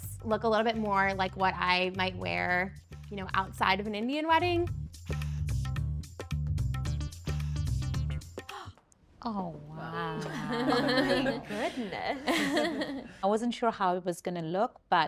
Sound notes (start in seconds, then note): 5.0 soft upbeat music; 8.5 gasping; 10.0 group laughing